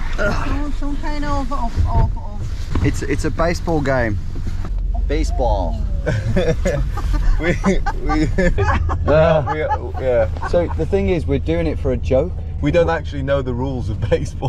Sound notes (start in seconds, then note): 4.5 American accent; 5.8 driver laughing; 6.0 all laughing